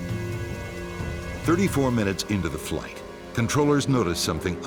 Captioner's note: voiceover